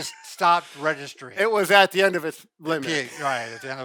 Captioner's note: laughs